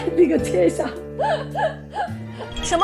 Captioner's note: haha